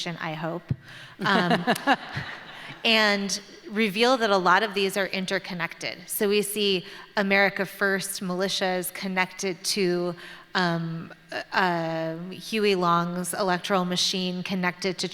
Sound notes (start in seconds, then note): 1.2 laughter